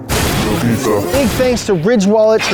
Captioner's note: voiceover